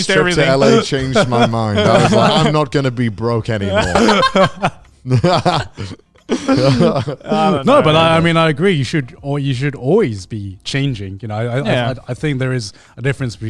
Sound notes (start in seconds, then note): 1.9 laughing; 3.7 all laughinga